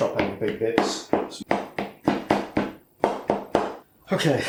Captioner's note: chop chop chop